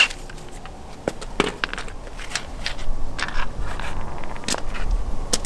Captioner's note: tools rustle